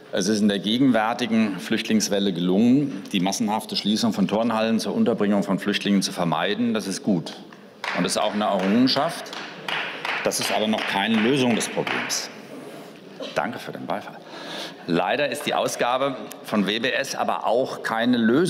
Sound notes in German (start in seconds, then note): 7.8 Beifall